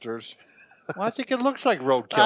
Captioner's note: laughs